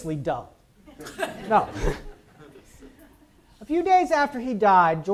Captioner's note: audience chuckles